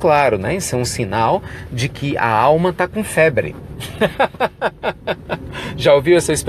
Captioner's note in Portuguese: risos